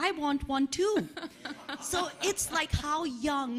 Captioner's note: laughing